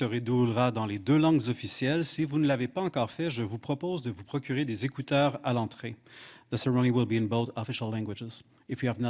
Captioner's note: speaking French